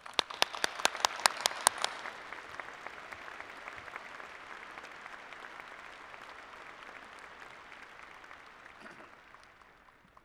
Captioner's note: applause